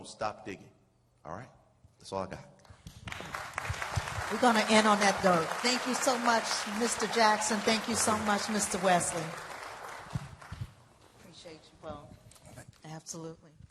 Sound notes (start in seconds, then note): 3.8 applause